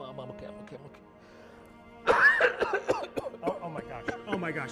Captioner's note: coughing